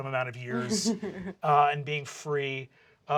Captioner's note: laughter